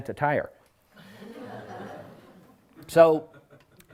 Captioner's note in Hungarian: nevetés